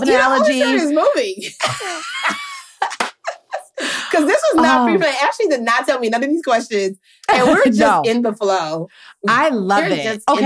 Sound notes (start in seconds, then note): 1.4 laughter